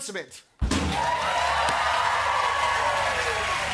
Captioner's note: clapping and cheering